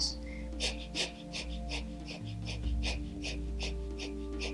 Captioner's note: breathing quickly